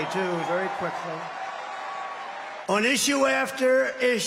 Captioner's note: cheers and applause